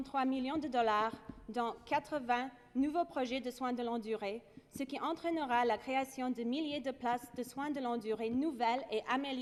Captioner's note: speaking French